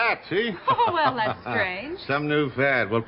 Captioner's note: Ms. Kelly laughing